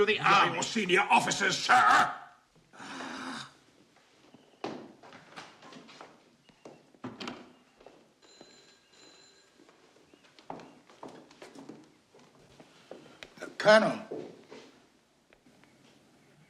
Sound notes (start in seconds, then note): 2.8 grunts; 8.3 phone ringing